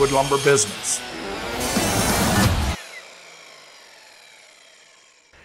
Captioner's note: circle saw grinding